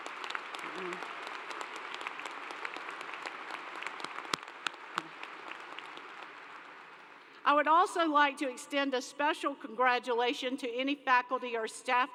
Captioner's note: applause